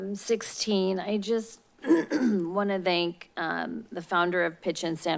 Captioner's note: clears throat